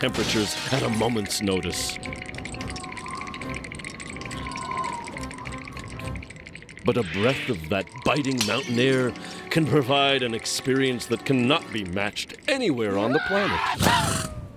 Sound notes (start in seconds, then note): 2.2 wind whistling